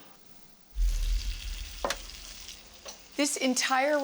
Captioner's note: sizzling